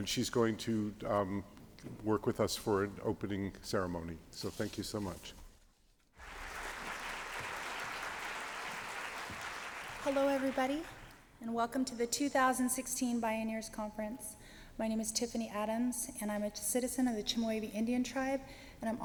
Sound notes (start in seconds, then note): 6.2 applause